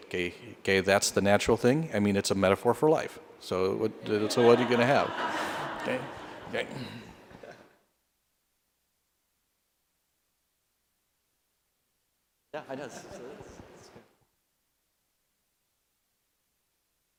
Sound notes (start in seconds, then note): 4.0 laughter